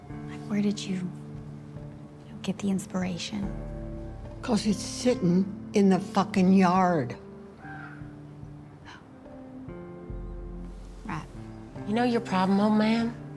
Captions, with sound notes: Like, where did you get the inspiration? Cause it's sitting in the fucking yard. [CROW CAWS] Oh. Right. You know your problem, old man?